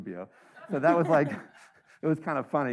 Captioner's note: audience members laughing